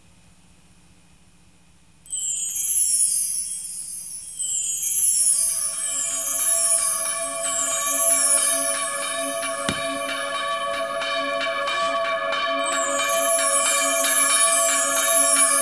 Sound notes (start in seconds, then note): 2.0 magical music playing; 5.1 church bell ringing